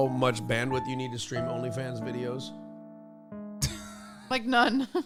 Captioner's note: laughs